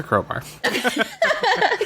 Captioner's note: laughs